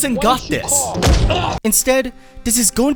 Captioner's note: jesse grunts; punch